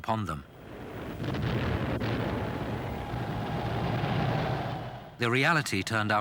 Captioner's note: explosions booming